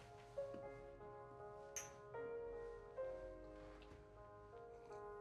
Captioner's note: glasses clink